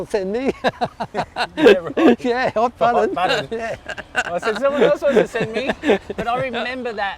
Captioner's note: laughs